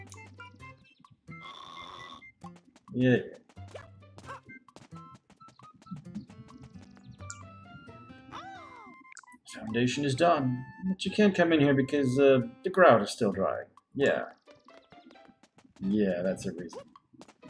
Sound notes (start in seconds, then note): 1.4 Yellow Toad snoring